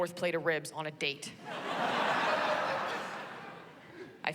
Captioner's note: laughter